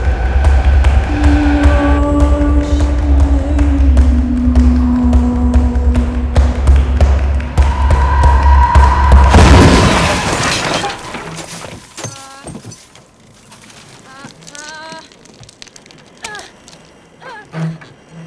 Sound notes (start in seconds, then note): 14.0 whimpering